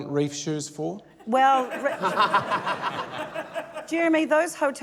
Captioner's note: laughter